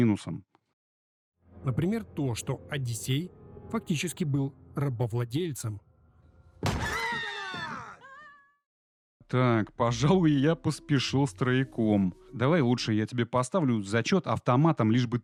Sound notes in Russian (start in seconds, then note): 6.6 крик